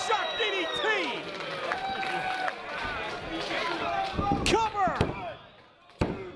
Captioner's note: applause